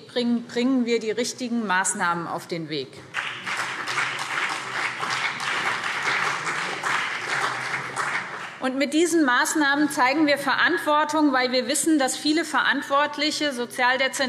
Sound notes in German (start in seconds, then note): 3.1 Beifall BÜNDNIS 90/DIE GRÜNEN und CDU